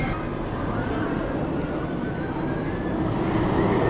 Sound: plane sound

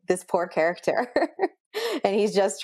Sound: laughs

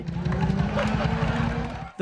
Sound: laughter

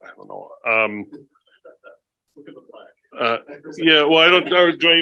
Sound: laughs

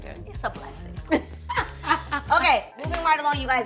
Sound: laughing

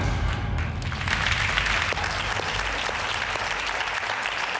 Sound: audience applauding

